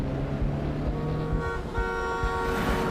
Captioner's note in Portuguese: buzina apitando